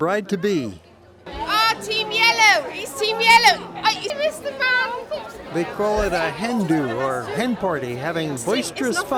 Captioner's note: laughter, chatter